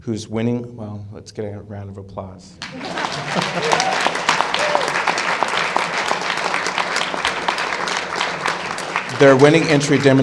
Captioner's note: applause and laughter